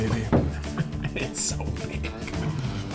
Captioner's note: laughs